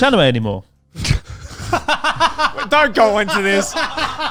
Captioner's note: all laughing